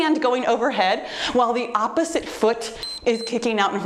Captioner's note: timer beeps